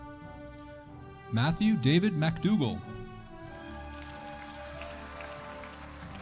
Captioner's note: audience applauding